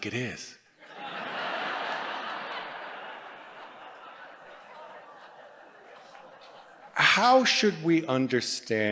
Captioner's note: laughter